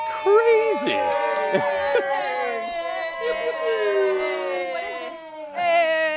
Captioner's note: cheering